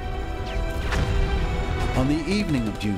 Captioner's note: gunfire